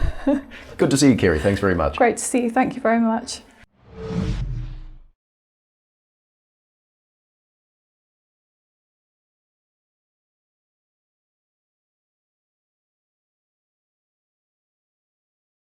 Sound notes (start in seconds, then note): 0.1 laughs; 3.8 whoosh